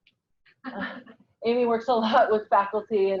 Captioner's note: laughs